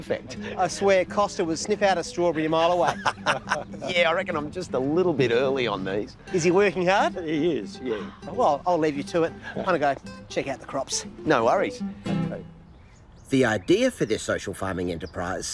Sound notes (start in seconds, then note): 2.3 laughs